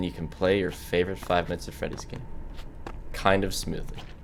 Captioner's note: none